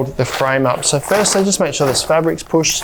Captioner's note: canvas rustling